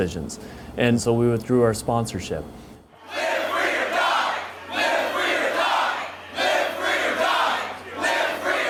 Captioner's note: chanting